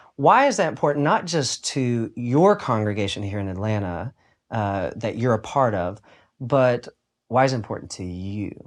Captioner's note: none